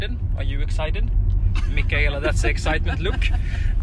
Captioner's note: laughs